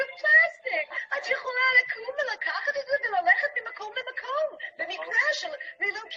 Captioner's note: speaking in a foreign language